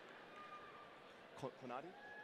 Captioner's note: audience cheering